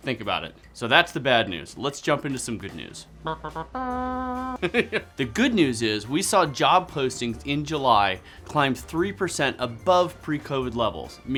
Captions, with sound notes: Think about it. So that's the bad news. Let's jump into some good news. (makes trumpet fanfare sound) (laughing) The good news is, we saw job postings in July climb three percent above pre-COVID levels.